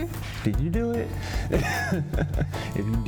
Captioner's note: laughs